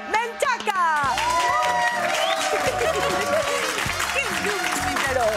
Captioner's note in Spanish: Aplausos